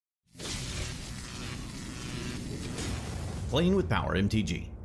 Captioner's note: electricity Buzzing